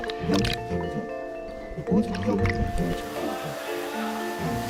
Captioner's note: the outside world is full of joyous sounds